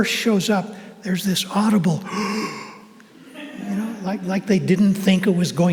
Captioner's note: gasps